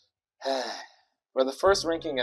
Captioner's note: sighs